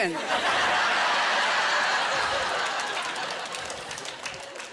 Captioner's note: laughter